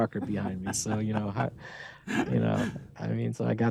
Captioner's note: laughter